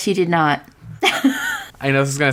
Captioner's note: laughs